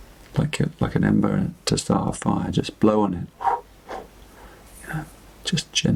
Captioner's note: making a blowing sound